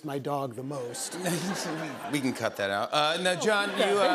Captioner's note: laughter